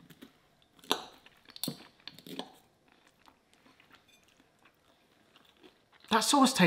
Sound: cutlery clinking; munching

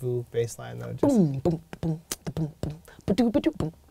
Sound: beatboxing

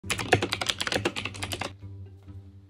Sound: keyboard typing; bright music

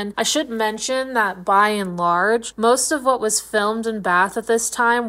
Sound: none

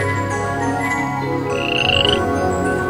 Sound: frog croaks

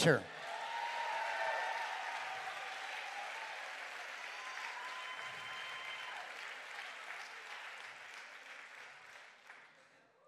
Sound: crowd cheers and claps

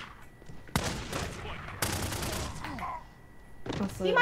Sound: gunfire

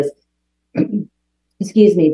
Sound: coughs

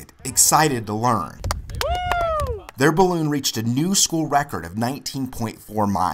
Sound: cheering

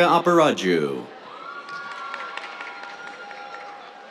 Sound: cheers, applause

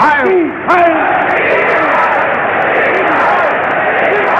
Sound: crowd shouting

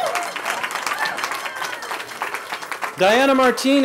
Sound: cheering

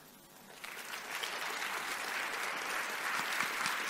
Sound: clapping

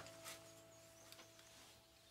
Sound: birdsong

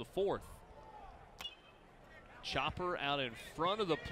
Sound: crack of bat

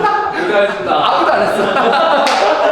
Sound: laughing

